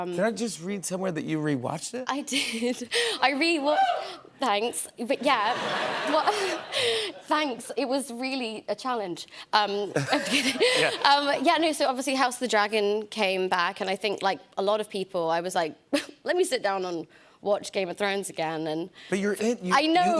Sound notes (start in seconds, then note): 5.2 laughter; 9.9 laughter